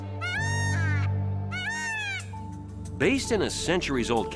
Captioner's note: peacock squawking